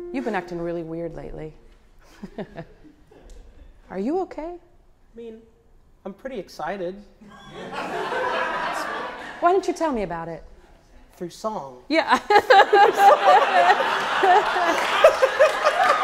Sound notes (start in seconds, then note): 12.2 audience laughing